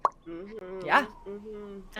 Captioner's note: mimics popping